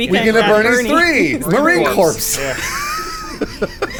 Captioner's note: wheezing